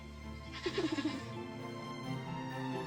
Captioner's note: laughing